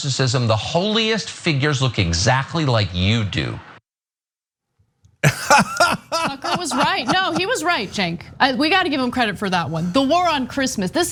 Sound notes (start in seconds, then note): 5.2 laugh